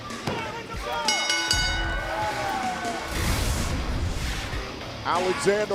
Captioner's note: bell